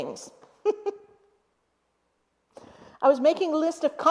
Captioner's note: chuckles